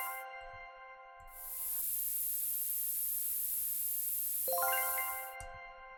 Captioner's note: spray sound